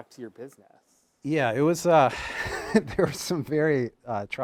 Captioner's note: chuckles